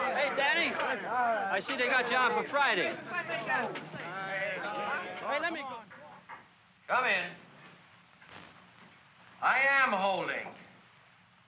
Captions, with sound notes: Hey Danny... I see they got you on for Friday. (excited chatter) - Come in. I am holding!